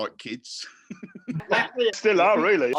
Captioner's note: laughs